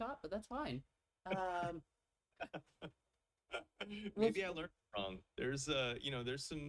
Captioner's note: chuckles